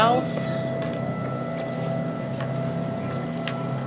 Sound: device whirs

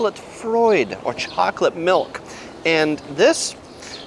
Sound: speaks foreign language

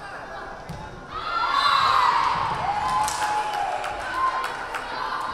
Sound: crowd cheering

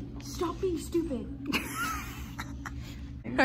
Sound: dies of laughter

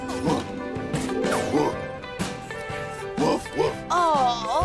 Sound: Marv barking

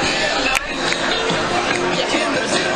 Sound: hypnotist clicks fingers

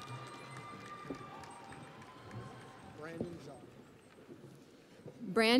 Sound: crowd cheering

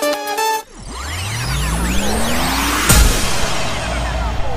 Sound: tape rewinding

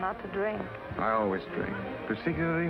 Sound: slurring words slightly

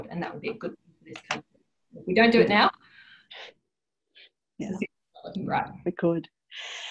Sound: audio distorts

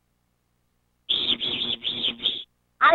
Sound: buzzing

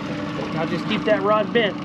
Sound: boat engine idling

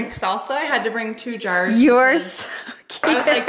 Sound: laughs

